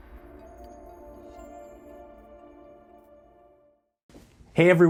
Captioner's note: bell reverberates